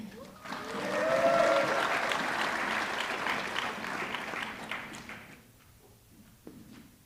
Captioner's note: audience clapping; audience cheering